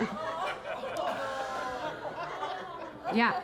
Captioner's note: Keira chuckling; audience laughing; audience members exclaiming